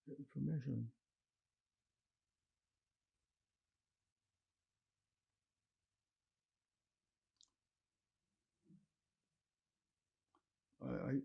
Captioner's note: pauses 10 seconds